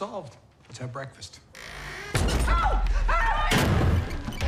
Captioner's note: door creaks